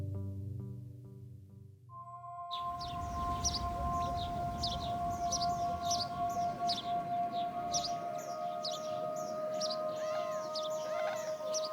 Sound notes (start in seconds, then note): 2.5 birds twitting; 3.2 gentle tranquil music